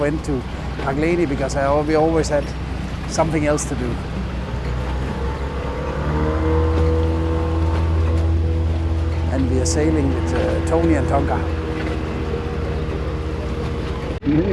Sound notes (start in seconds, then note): 4.9 boat Engine